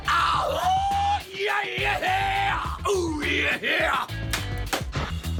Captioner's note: cashier howling and screaming